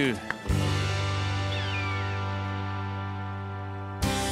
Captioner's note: bird caws